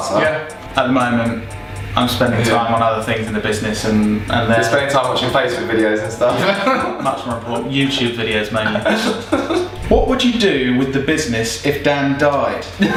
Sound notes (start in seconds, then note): 6.2 laughing